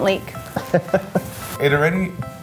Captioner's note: laughs